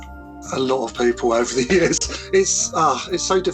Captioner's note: laughs